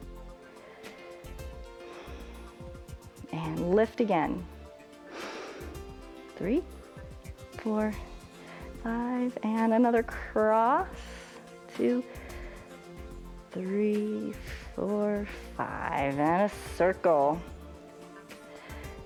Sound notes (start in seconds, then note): 5.0 inhales